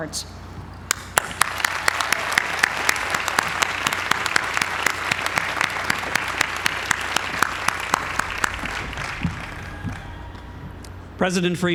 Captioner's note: applause